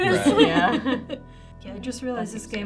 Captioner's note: group laughs